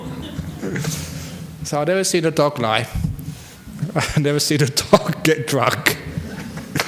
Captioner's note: laughs